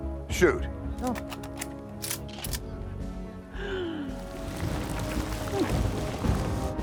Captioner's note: laughs